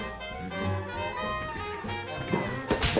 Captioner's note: flop